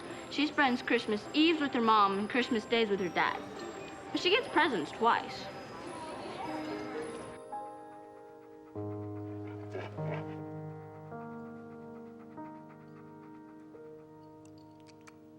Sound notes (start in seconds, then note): 7.0 panting